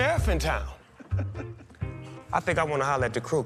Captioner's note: laughs